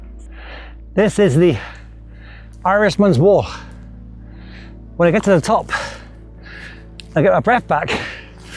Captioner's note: gasps and sighs; sighs and gasps